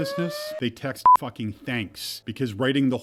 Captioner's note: beep